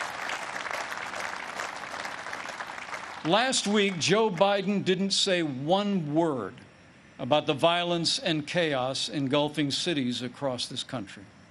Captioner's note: applause